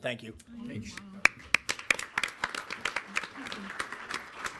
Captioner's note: people clapping